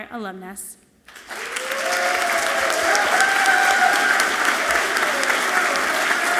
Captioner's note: audience clapping and cheering loudly